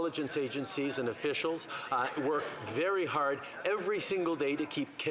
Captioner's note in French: voix de l'interprète